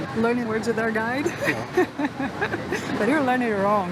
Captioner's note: laughs